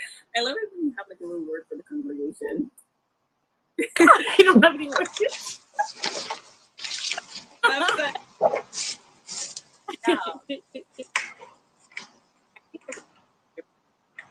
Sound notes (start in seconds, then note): 9.8 laughs